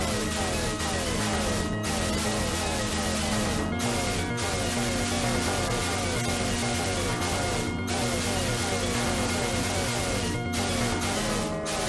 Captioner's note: game sounds